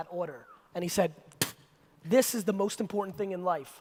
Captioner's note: spits